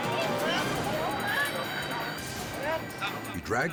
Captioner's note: bystanders and captor chatter